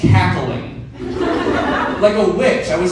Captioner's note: audience laughs